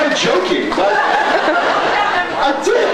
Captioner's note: laughs